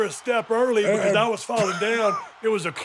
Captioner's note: Dallas laughs